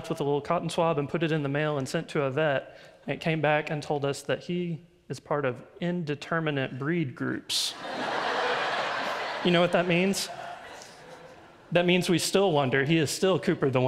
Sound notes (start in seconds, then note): 7.7 audience laughs